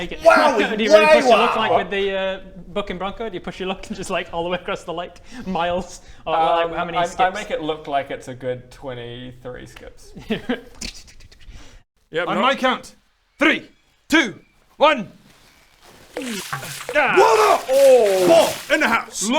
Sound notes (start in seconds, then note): 15.4 splash...plop...skim